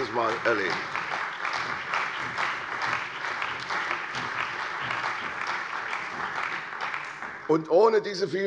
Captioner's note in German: Beifall bei der CDU und dem BÜNDNIS 90/DIE GRÜNEN